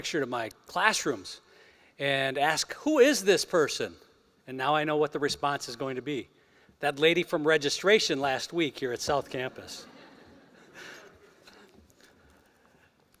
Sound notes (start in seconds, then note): 9.6 laughter